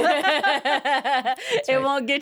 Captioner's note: both laughing